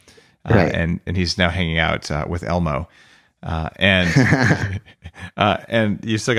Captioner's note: laughing